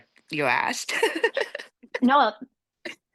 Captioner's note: laughing